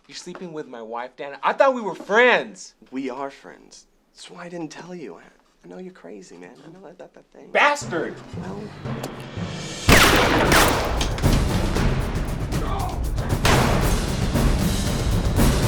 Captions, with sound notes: You're sleeping with my wife, Dan? I thought we were friends. - We are friends, that's why I didn't tell you. I know you're crazy man. I know that thing-- - Bastard! (gun shots blaring)